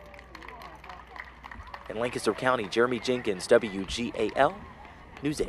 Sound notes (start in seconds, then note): 3.0 applause